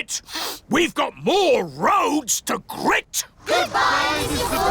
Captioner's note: sniffs